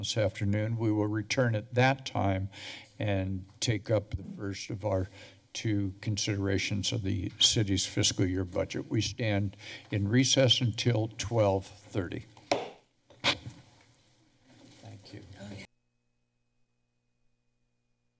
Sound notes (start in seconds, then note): 12.4 gavel tap; 16.4 silence